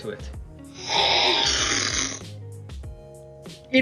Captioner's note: slurping